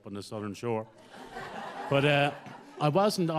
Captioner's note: audience laughs